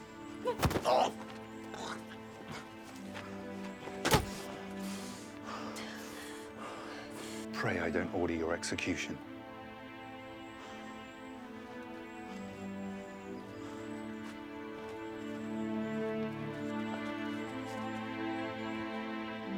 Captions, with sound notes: (guard groans) (fist thumps) Pray, I don't order your execution. (solemn music continues)